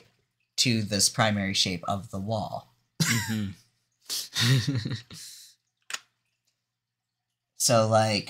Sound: laughs

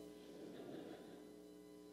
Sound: laughter

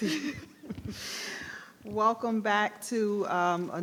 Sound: person laughing

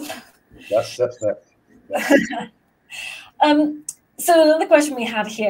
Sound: laughs

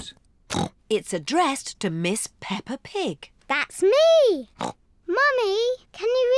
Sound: snorts

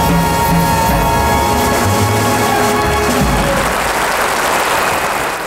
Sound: audience applauding

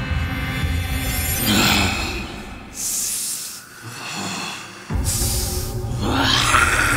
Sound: groooowl, hisssss, growl, growl, hissss

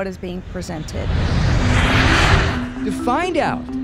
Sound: plane whirring

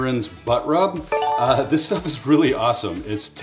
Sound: electronic bell ringing

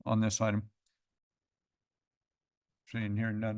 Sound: pause

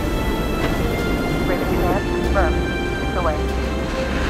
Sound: dramatic orchestral music; radio chattering

